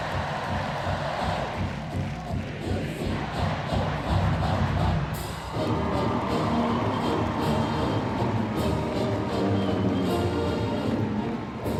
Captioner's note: cheering